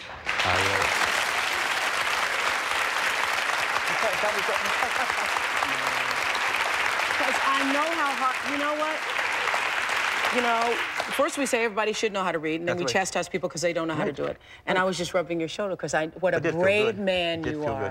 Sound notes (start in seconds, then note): 0.1 audience applauds; 3.7 indistinct chatter